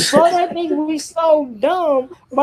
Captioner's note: chuckles